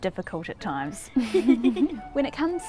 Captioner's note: laughing